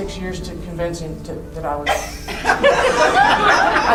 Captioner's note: crowd laughing